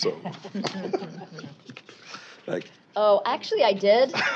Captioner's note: chuckling